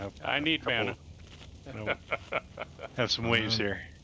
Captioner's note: laughter